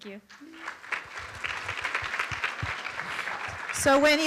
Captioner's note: room applauds